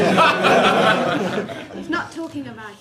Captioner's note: laughter